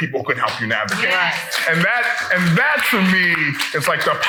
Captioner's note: people clapping